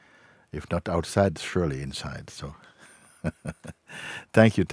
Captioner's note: lacht